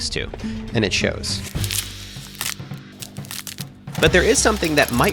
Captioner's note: knuckles and neck crack